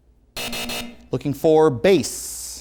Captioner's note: hard buzzing